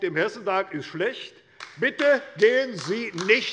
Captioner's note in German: Beifall bei der LINKEN